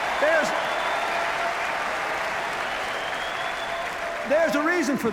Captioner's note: cheers, applause